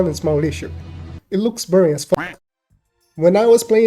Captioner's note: happy duck sounds